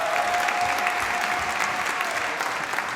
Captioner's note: applause